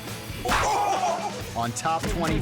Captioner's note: foot smacking; man yelling